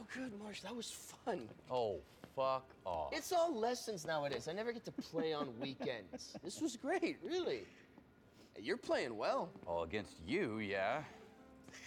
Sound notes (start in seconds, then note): 4.0 hand patting; 4.8 Marshall laughing; 11.6 peaceful music